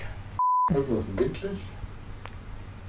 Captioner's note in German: Aus dem Off